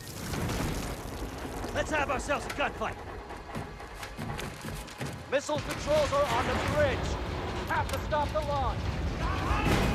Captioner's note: crashing